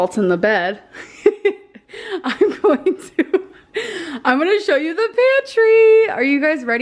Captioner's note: laughs